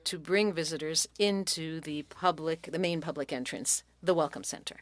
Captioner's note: speaking French